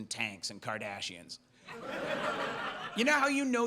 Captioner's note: audience laughs